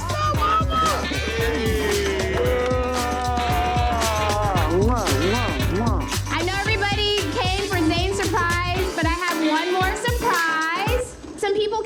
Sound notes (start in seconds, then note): 2.4 crowd exclaiming; 5.4 upbeat music